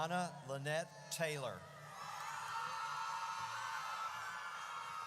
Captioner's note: audience cheers